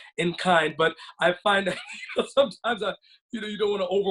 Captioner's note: laughs